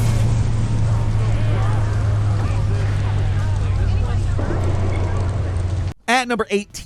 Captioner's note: electricity whirring; rain pattering; passersby chattering